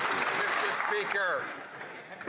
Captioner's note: some Applause